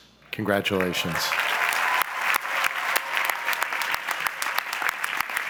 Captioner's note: audience applauds